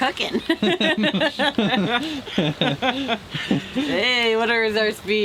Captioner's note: both chuckle